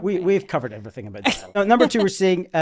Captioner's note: laughing